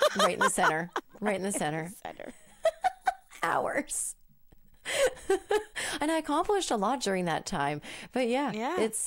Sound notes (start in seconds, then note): 2.1 laughing